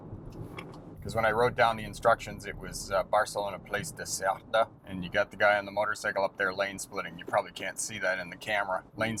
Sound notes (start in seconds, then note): 3.3 speaking Spanish